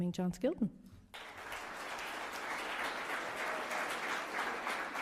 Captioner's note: audience applauds